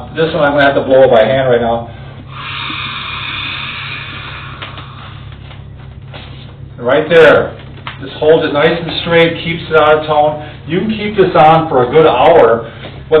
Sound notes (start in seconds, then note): 2.2 air blowing into tube